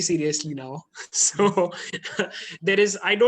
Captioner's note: laughs